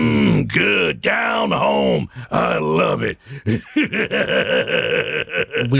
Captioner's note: chuckles